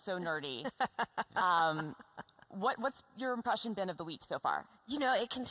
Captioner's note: laughs